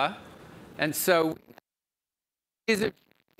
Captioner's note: audio breaks